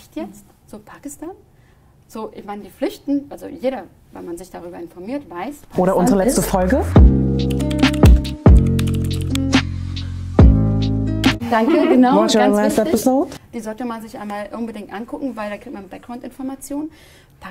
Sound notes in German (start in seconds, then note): 8.4 Tippgeräusche vom Keyboard